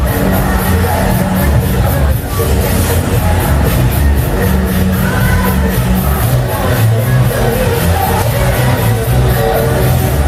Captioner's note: clap